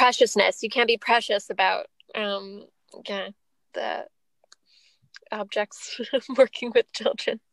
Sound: laughs

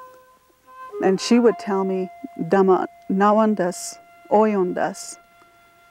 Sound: speaking in foreign language

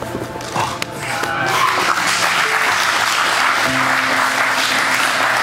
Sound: spectators applauding

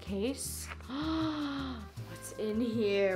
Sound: gasp

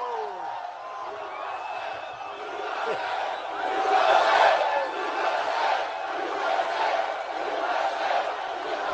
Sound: applause

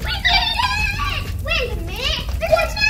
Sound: kids cheering

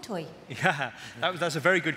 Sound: chuckles

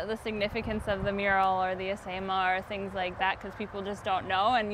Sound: foreign language

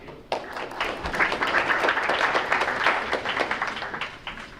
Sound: crowd applauds

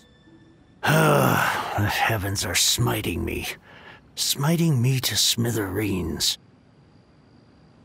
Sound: sigh

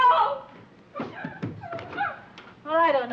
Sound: Anne crying

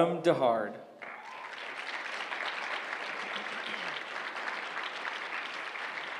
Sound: applause

